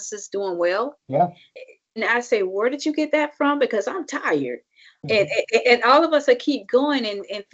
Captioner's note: laughs